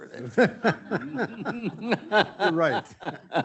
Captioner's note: participants laughing